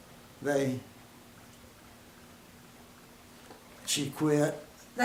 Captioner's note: silence